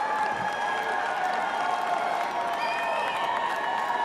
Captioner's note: cheering and applause